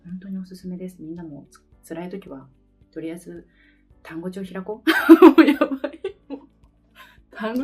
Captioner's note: laugh